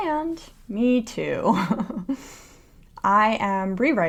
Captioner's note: laughter